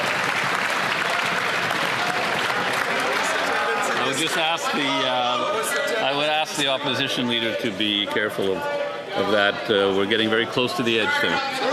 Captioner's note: some Applause